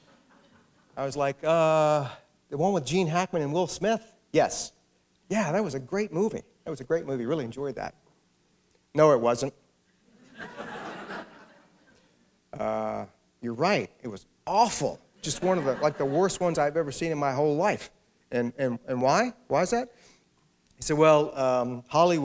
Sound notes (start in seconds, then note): 10.1 laughter